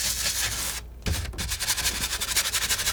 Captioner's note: tapping